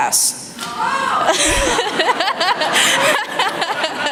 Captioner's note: laughter